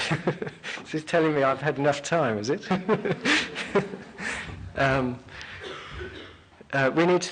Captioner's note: laughing